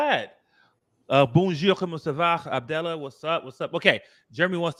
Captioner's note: speaking french